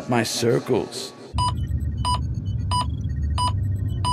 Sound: beeping

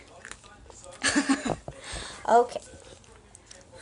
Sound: child crunching; chuckles

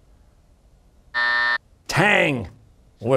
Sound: buzzer

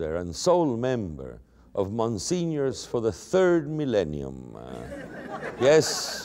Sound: laughter

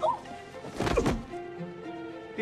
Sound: grunts

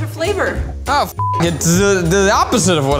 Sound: beeps

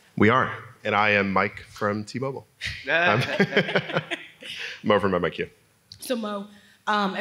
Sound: laugh

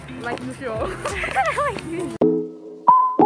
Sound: laughs

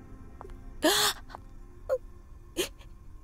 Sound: Nitya gasps

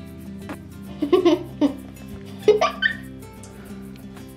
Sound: giggles

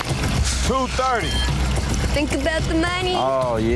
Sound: digital beeping

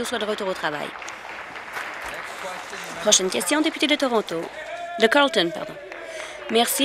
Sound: applause

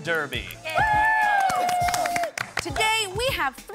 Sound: all cheer

